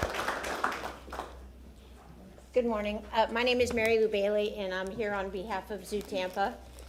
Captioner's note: applause